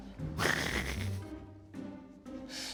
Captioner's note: laughs